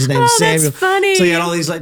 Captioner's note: laughs